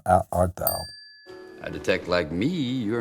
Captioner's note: bell chiming